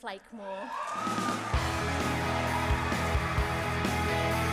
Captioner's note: cheering